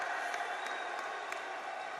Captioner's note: applause